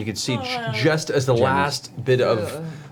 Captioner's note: groans; quietly